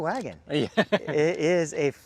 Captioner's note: laughs